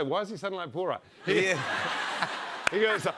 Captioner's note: laughter